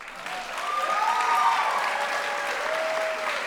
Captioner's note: applause